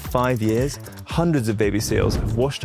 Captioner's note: screen whooshing